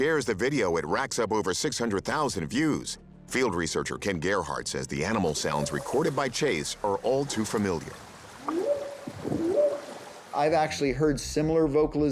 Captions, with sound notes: it racks up over 600,000 views. Field researcher Ken Gerhard says the animal sounds recorded by Chase are all too familiar. [whooping sound] I've actually heard similar vocalizations,